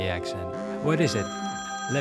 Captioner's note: phone buzzes